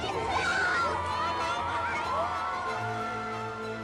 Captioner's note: crowd cheering